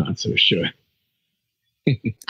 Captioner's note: laughs